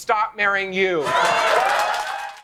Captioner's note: crowd cheering